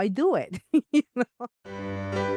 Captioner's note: laughs